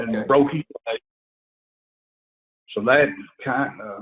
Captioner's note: audio cuts out